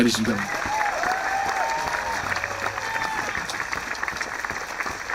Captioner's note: cheering and applauding